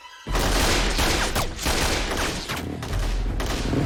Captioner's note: gunfire